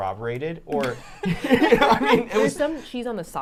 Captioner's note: all laughing